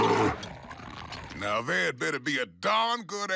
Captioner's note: roars